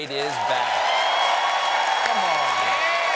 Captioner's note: cheers and applause